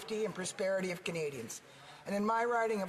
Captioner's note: speaking english